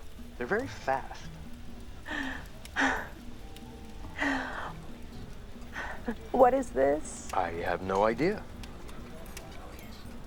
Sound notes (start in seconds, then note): 2.0 gasps